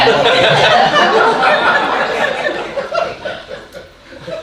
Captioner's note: audience laughing